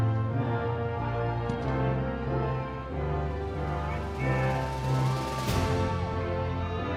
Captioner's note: audience cheering